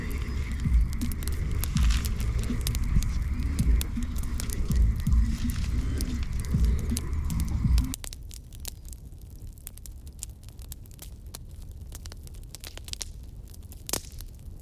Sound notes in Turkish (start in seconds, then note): 7.0 Ateş sesi